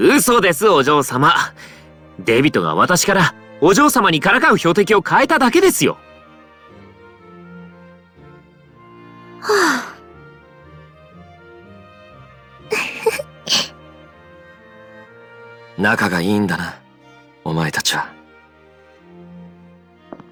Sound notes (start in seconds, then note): 9.4 sigh; 12.7 laugh